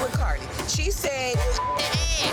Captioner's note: beep